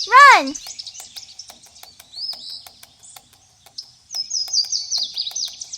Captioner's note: birds cawing and chirping